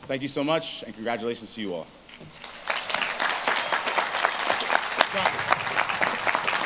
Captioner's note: audience claps and cheers